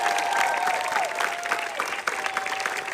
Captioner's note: audience Applauding